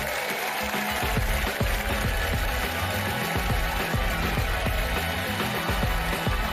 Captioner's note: applause